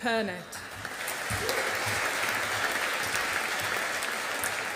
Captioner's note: audience applauding